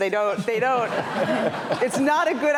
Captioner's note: laughter